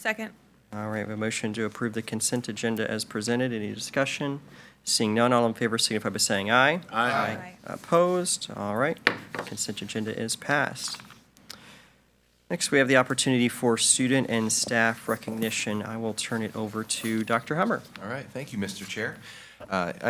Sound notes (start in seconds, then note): 9.0 gavel bangs